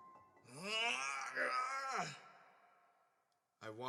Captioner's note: Valjean groans